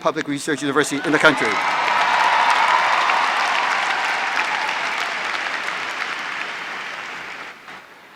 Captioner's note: applause